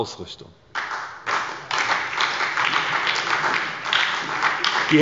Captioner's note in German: Beifall bei der SPD